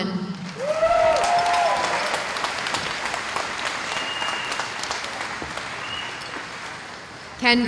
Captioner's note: cheering